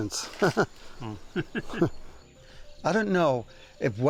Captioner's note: chuckles